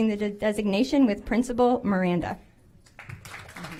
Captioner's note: applause